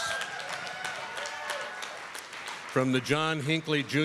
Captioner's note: applause